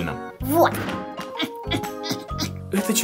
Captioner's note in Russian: Кряхтит x4